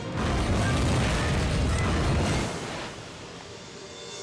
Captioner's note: explosion booms